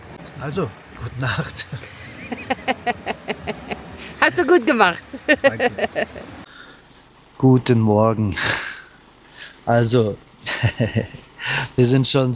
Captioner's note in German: gelächter